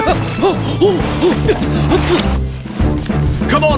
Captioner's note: spluttering